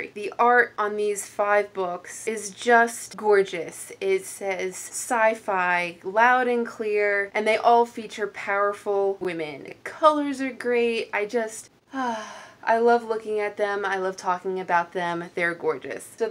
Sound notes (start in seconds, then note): 11.9 happy sigh